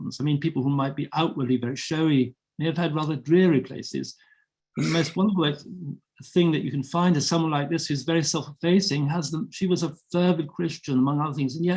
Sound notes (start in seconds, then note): 4.8 chuckling